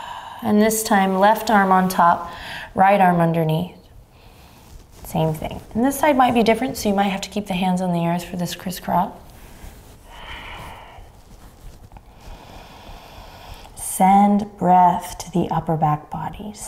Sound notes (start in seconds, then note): 0.0 exhaling deeply; 9.3 inhaling and exhaling deeply